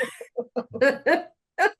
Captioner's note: laughing